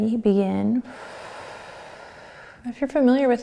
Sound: breathing

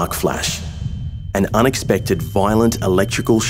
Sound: voiceover

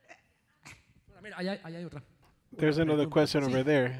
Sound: speaking in foreign language

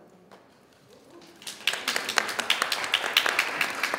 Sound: audience applauding

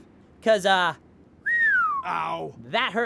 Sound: whistle

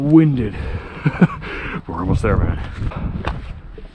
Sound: laughs

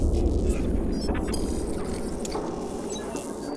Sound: whooshing

